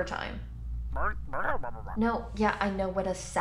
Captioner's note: angry distorted talking